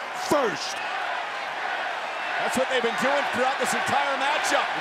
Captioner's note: applause